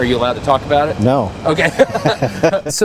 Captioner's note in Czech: Both Laugh